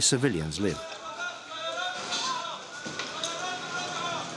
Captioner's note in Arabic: الصوت المنطوق باللغة العربية